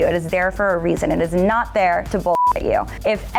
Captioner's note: beep